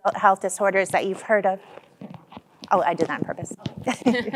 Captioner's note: chuckling